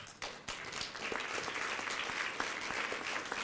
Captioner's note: applause